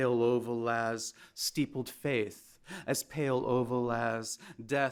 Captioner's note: speaks in foreign language; speaking in foreign language